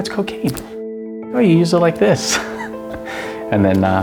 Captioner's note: laughs